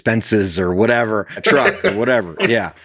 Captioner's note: laughs